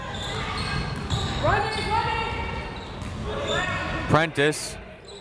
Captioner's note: crowd members shouting